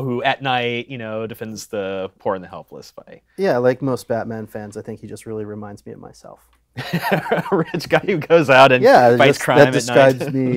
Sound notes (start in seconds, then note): 6.8 laughs